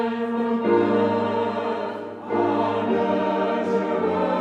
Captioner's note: graduates cheering